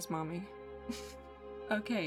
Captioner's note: chuckle